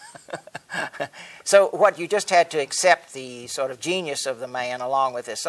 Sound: laughs

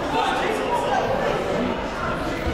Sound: chatting; shouting

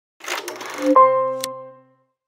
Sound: film reel clicks; piano note

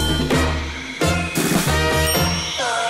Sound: dinging

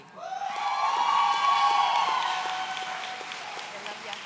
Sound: audience cheering

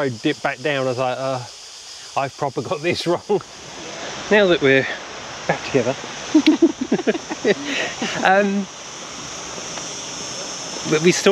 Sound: laughter

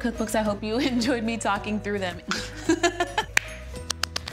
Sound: laughs

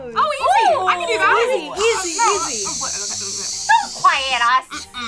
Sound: shushing

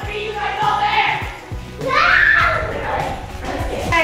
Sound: overlapping chatter

